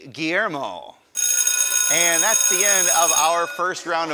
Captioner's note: ringing